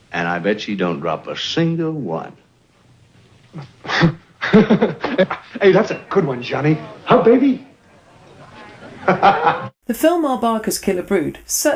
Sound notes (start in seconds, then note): 3.5 both laughing; 8.5 Kelly laughing